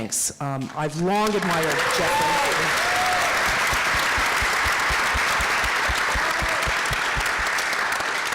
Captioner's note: applause